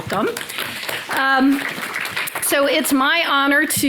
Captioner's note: audience applauding